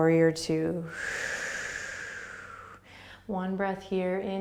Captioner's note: exhaling